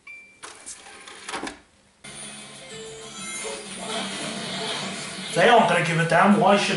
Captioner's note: various Sonic-related noises